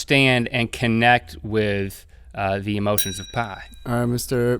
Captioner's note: bell ding